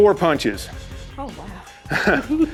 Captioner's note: laughter